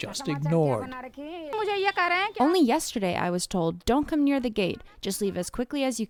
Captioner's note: through translator